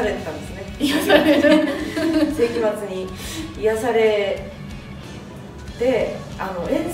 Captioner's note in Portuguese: risos